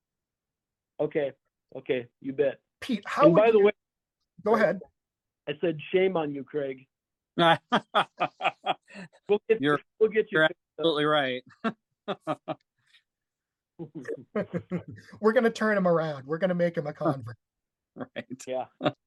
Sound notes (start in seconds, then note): 7.4 laughs